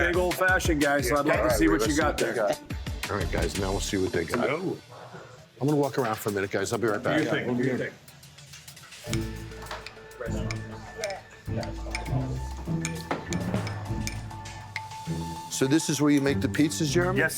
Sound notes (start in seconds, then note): 8.9 glass tinkling and people speaking indistinctly